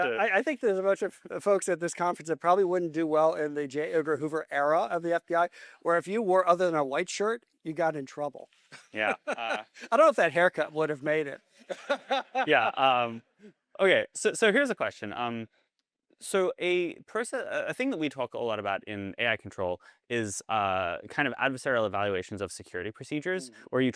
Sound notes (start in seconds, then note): 8.7 laughter; 11.6 laughter; 11.7 audience Laughter